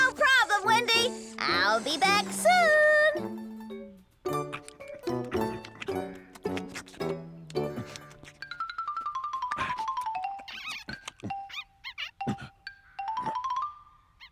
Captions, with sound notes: NO PROBLEM, WENDY! I'LL BE BACK SOON! ( Licking Sounds ) ( Rabbits Squeaking )